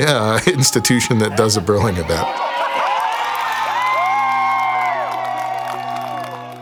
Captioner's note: audience cheering; inspiring music